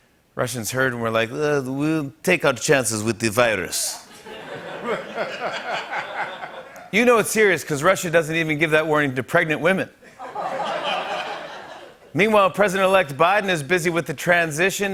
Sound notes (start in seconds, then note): 1.8 Russian accent; 4.1 laughter; 10.0 laughter